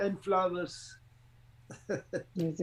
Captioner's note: laughs